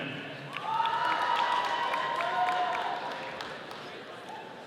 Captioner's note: audience cheering